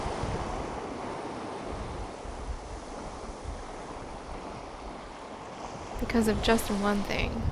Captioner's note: ocean sounds